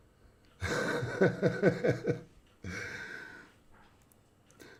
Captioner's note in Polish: śmiech